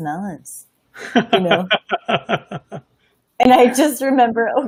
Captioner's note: laughing